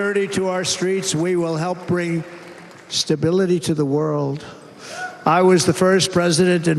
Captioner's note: cheers and applause